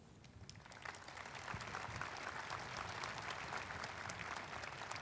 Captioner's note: audience applauding